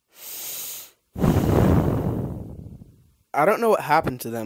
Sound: heavy breathing

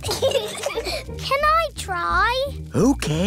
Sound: peppa and george giggle

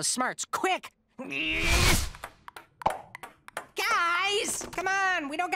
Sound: grunting

